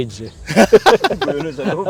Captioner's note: laughs